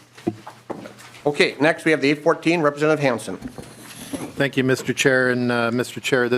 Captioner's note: gavel